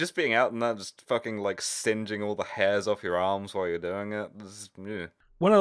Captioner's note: shudder